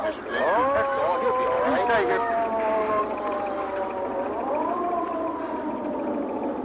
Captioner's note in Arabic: صوت صفارة الإسعاف